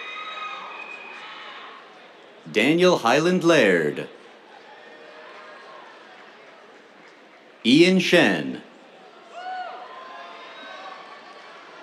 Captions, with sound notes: Daniel Hyland Laird. [APPLAUSE] Ian Shen. [CHEERS]